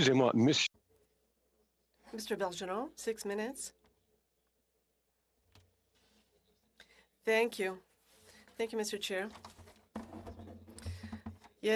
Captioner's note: speaking French